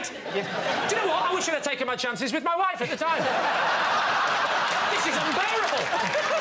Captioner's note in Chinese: 笑声